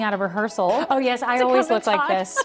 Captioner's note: laughs